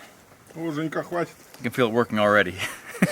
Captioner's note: speaking foreign language; laughs